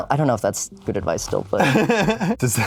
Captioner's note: laughs